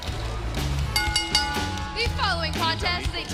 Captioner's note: bell ringing